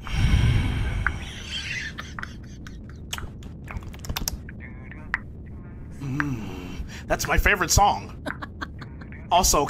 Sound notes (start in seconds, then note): 1.7 exhale